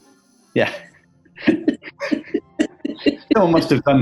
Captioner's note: laughing